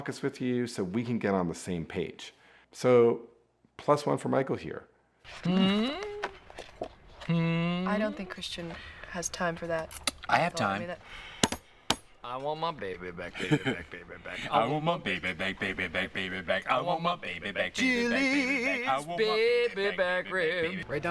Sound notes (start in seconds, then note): 11.8 Michael drumming table; 13.2 laughing